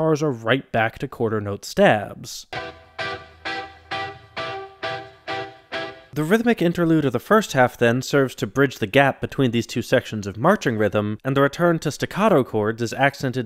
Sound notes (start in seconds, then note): 2.5 bang